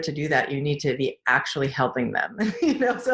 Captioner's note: laughs